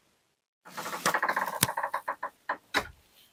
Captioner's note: door creaks